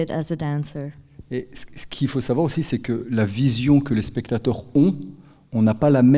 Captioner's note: speaking in French